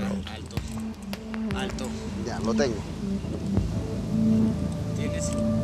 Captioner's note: Spanish spoken audio